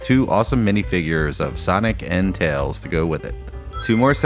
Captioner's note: Sonic Ring Chime